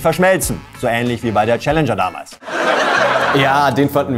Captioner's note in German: Gelächter